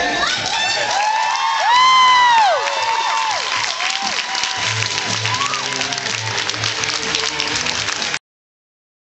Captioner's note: cheers and screams